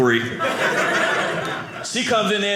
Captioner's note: audience laughing